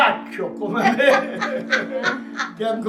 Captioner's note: they laugh